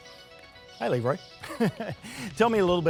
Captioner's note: chuckling